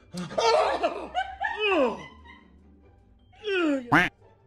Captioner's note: laughing